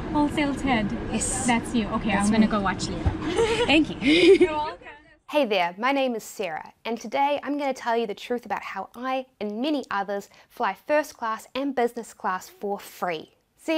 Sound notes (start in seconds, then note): 3.2 laughs; 3.2 woman laughs